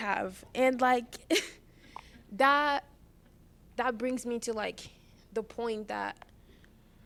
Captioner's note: laughter